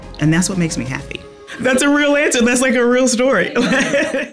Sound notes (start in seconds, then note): 3.4 laughing